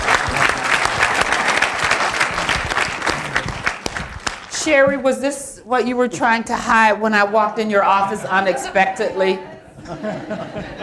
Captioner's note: applause